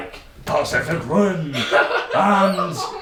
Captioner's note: laughing loudly